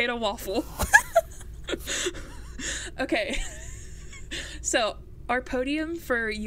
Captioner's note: laugh